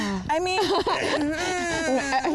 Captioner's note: all laugh